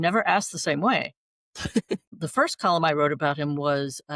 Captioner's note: laughter